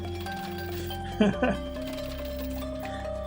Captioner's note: laughs